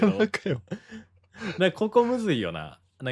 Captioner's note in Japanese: 笑い; 息をのむ音